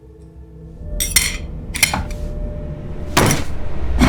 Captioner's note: metal clanking; dramatic music